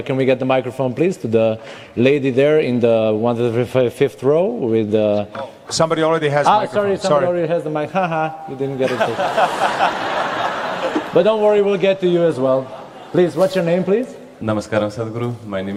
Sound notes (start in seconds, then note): 8.8 laughter